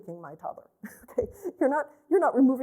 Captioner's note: laughter